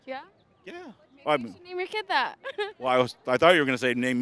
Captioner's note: laughing